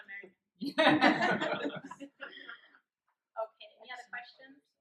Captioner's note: laughter